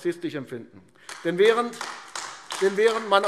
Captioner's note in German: Beifall AfD